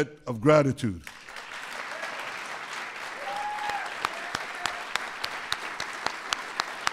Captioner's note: applause